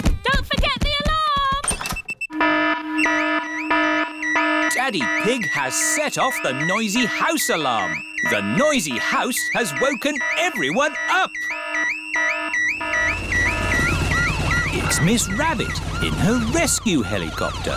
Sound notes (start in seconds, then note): 1.9 alarm blaring